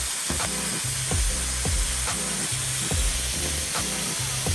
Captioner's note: slow jazzy music; water spraying